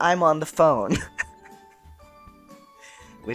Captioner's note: laughter